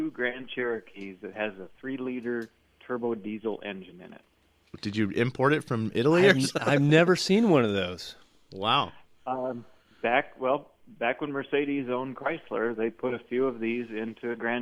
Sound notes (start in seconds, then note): 6.1 laughs